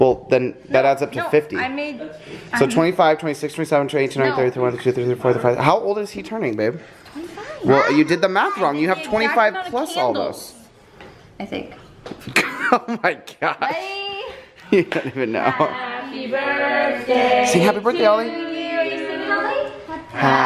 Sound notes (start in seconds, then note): 14.6 laughter